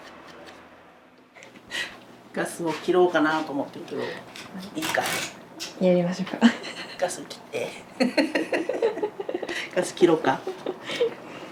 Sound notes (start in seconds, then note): 8.0 laughs